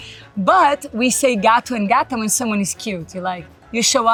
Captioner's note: speaks Portuguese